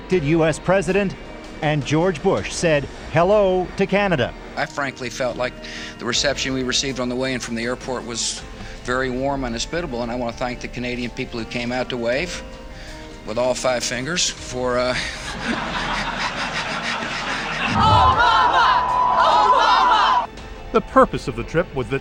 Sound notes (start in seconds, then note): 17.2 hearty laughter from audience